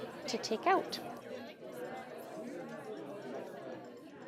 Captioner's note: people Chatter